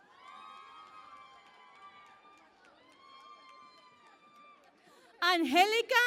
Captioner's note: cheering and Applause